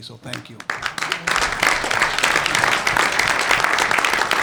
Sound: clapping

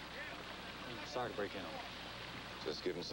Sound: none

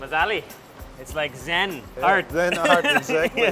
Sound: laughing

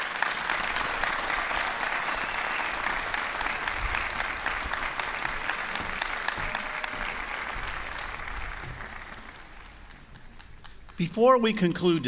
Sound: applause

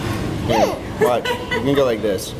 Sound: grunts

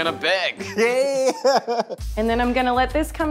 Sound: laughs

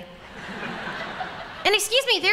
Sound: laughter

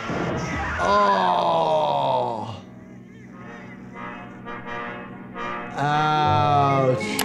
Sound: thudding, shouting; Tom groaning painfully

